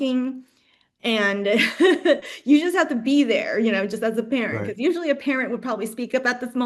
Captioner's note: laughs